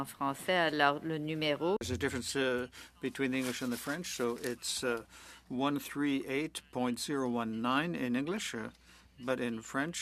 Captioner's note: speaking French